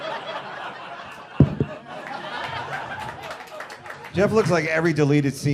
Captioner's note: people laughing; mics bumping